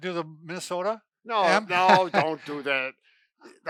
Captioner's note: laughs